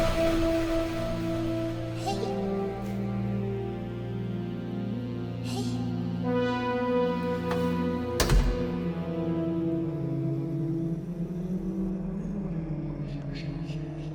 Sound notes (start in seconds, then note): 8.1 mirror slams shut; 9.6 ghost whispers